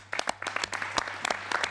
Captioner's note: applause